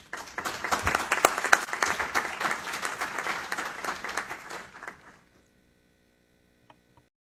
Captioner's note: applause